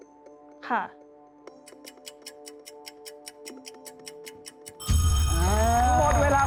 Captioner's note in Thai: เสียงนาฬิกา